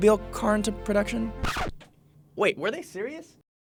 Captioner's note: scratching